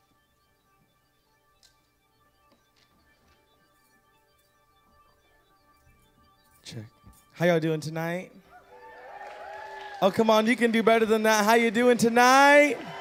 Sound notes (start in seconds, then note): 0.1 light electronic music; 8.6 audience cheering and applauding